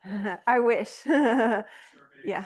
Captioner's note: chuckles